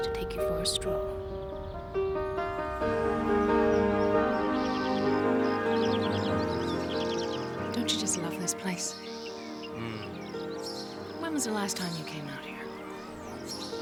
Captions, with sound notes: C'mon, Shirley Valentine wants to take you for a stroll. (birds chirping) Don't you just love this place?